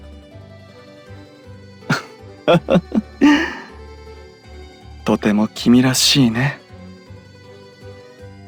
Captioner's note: laugh